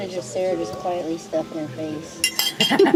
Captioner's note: quietly stuffing her face; cackling